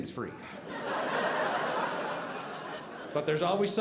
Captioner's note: audience laughing